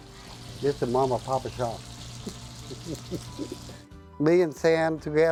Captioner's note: laughs